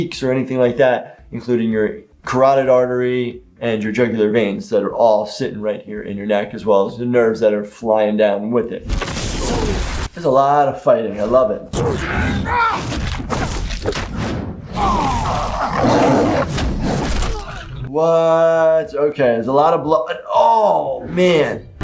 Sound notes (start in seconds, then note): 9.0 crashing sound; 14.7 jabs groaning sound